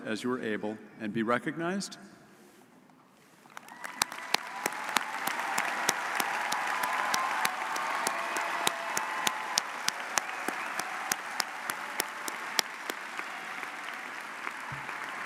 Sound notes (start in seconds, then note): 4.2 audience cheers